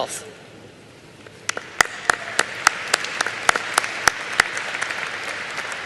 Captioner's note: applause